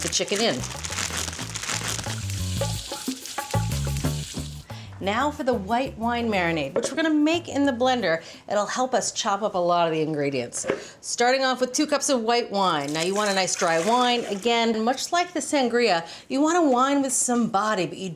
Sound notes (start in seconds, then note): 0.3 pleasant music; 1.5 wrapper rustling